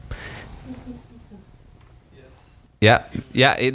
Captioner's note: laughing